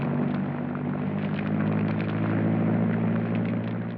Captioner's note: none